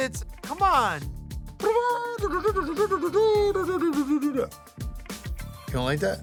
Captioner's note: Buddy imitates trumpet